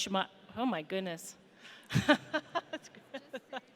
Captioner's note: laughs